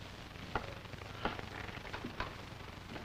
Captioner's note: footsteps